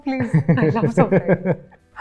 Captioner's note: laughs